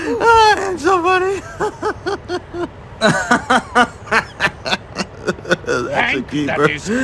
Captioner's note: laughs